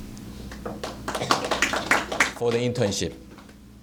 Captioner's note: applause